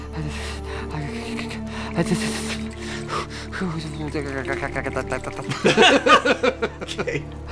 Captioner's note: chatters teeth, shivers, weird llama noises